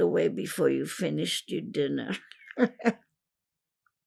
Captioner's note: laughing